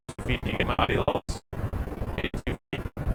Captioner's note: crackles